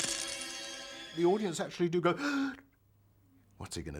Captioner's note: gasps